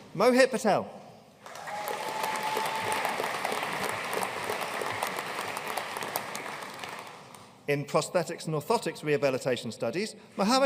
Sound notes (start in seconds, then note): 1.4 audience cheering and applauding